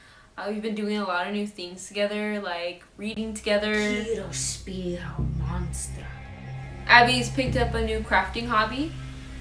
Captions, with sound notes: Uh, we've been doing a lot of new things together like reading together. [latin spell chants] Abby's picked up a new crafting hobby.